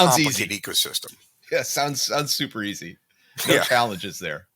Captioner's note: laughing